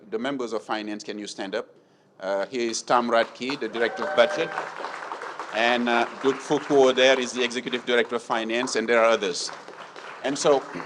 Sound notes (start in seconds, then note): 3.2 audience cheering; 4.7 audience applauding